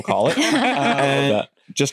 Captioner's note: laughter